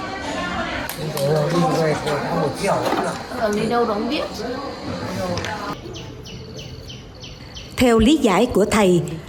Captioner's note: people chatting